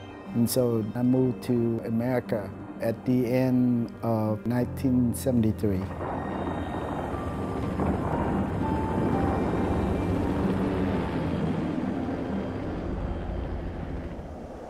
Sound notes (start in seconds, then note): 6.2 helicopter blades whirring